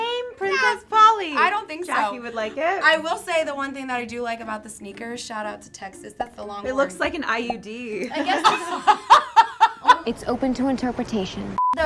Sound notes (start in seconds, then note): 8.1 laughs